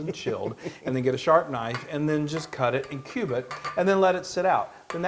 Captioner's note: laugh